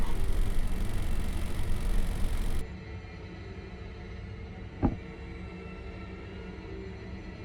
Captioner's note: fan whirring